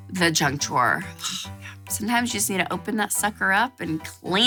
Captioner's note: sighs